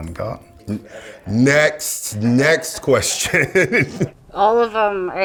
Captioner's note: laughs